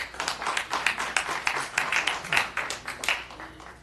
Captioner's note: applause